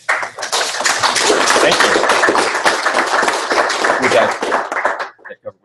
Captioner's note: applause